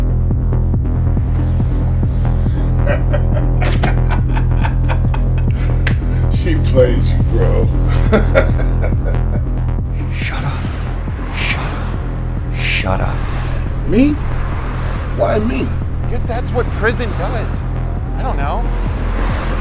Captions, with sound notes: [laughter] She played you bro. Shut up. Shut up. Shut up. Me? Why me? I guess that's what prison does. I don't know.